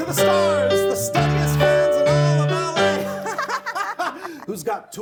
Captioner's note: laughing